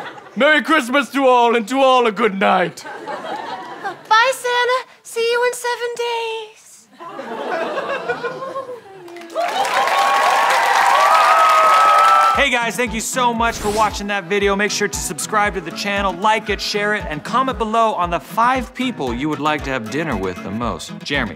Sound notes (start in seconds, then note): 9.1 audience cheers